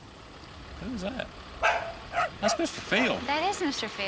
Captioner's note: dog barking